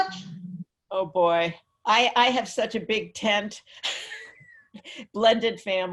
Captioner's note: laughs